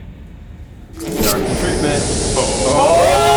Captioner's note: door opens